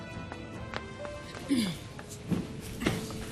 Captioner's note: Claudia clears throat